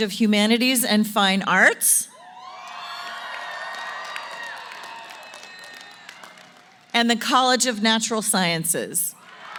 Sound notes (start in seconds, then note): 2.1 cheering & Applause; 9.2 applause & Cheering